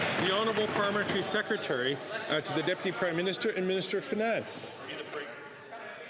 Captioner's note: some Applause